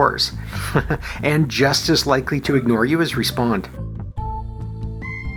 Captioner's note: chuckles